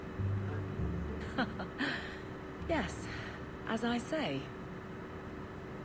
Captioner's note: awkward laugh